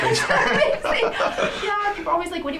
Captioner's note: laughs